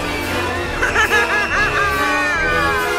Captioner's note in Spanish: risa de madam tanorima